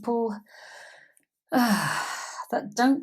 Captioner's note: sigh